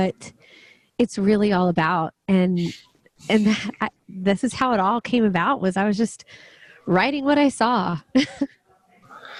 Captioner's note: laughs